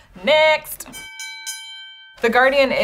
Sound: bell dings

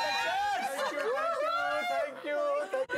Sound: cheering

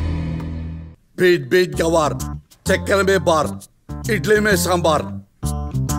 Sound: magical spell

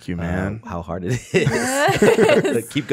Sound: laugh

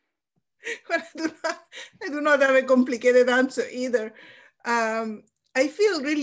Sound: laughs

